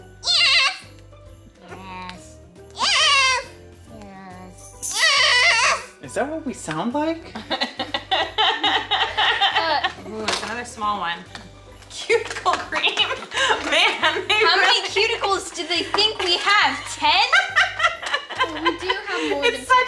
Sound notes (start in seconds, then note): 7.4 laughs; 17.1 laughs